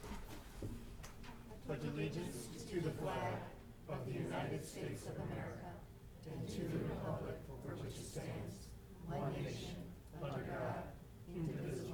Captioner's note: reciting the pledge of allegiance